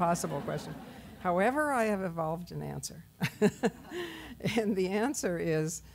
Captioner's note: laughs